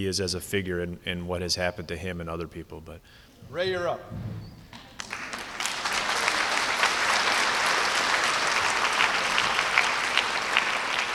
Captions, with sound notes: as a figure in what has happened to him and other people. But Ray, you're up. (applause)